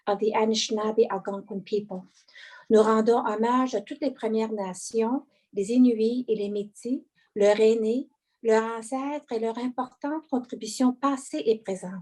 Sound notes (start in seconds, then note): 2.9 speaking French